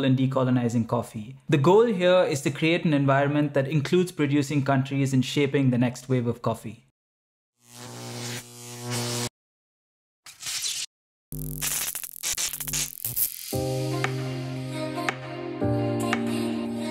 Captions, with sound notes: in decolonising coffee. The goal here is to create an environment that includes producing countries in shaping the next wave of coffee. (electricity zapping) (chill upbeat music)